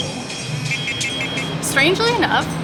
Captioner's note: beeping